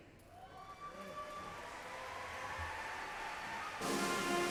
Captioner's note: applause